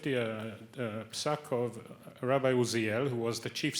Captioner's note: speaks Hebrew